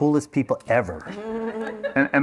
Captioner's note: laughter